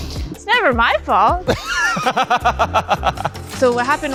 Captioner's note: laughs